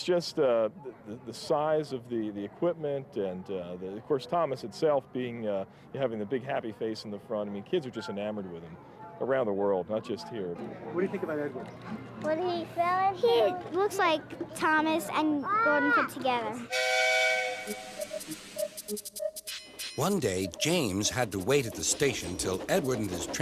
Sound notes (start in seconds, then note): 16.7 engine whistles